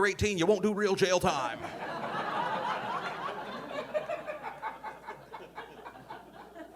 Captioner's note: audience laughing